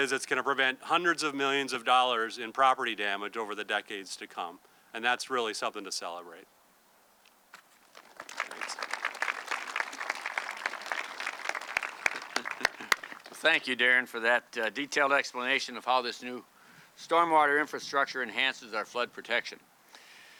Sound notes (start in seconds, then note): 7.9 audience clapping